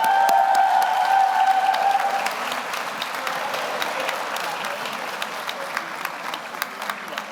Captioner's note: audience cheers; audience applauds